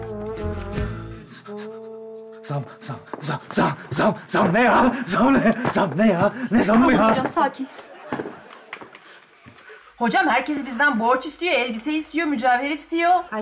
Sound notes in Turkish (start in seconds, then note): 7.8 Gülme efekti